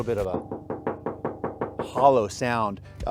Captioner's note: hollow knocking